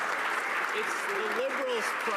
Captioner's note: some Applause